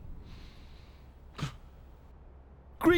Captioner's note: footsteps echoing; gasps